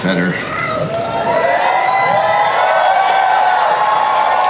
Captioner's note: crowd cheers